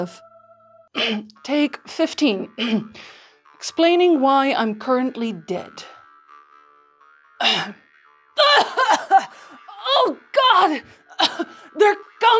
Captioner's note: cough